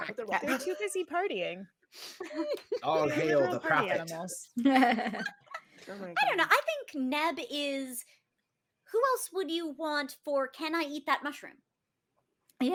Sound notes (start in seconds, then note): 4.6 laughing